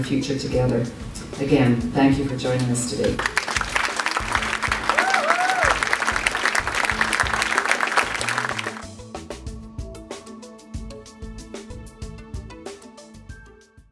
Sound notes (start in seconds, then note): 3.1 applause